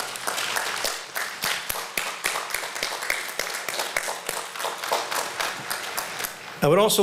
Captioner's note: applause